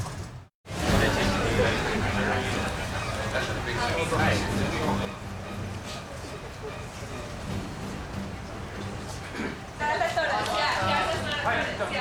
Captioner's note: people chattering